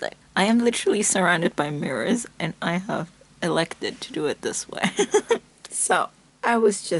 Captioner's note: laughs